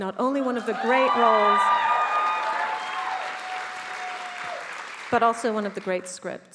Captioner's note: attendees cheering; attendees applauding